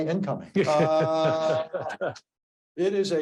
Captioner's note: laughing